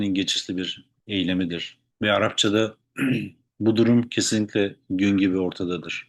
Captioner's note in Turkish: boğazını temizler